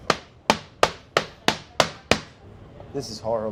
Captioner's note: pan banging